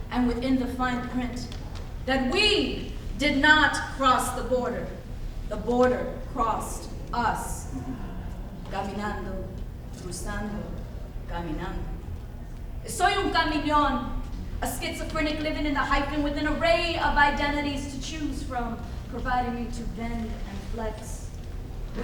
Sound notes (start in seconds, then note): 9.3 speaks in foreign language